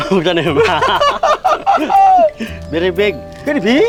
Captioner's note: both laughing